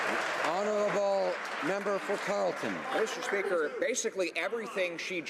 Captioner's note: some Applause